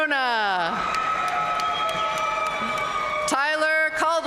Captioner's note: audience cheering and applauding